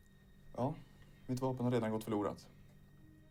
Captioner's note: speaking Swedish